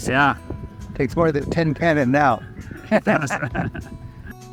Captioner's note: laughing